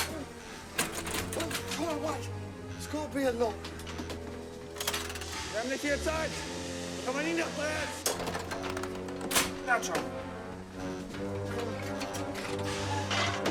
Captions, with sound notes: THEY'RE ON THEIR WAY UP! UH, OH, WAIT -- THERE'S GOT TO BE A LOCK. [SPEAKING GERMAN] NOW TRY.